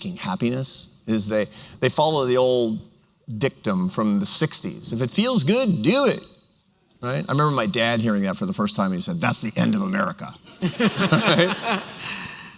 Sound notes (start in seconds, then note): 9.3 grumpy tone; 10.5 laughter